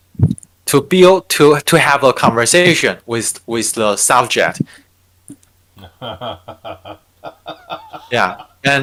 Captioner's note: laughing